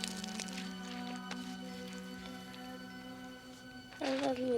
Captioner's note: water sloshing